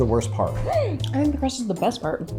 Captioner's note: gasps